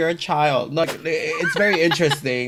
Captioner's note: laughs